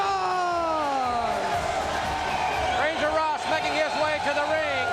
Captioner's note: crowd cheering